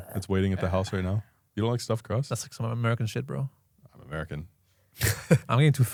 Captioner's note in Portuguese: risos